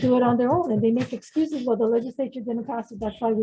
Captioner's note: laughs